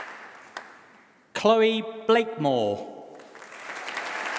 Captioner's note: applause